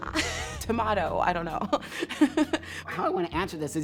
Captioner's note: laughing